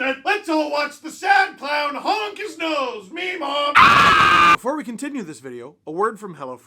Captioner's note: guttural scream